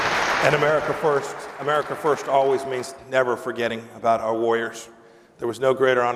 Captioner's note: applause